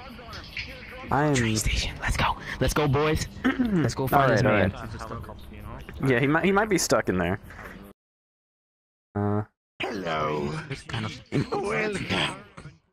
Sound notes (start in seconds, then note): 1.6 whispering; 3.4 clears throat